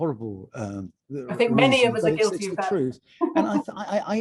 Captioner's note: laughing